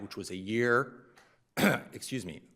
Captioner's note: coughs